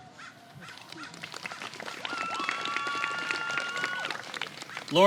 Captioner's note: applause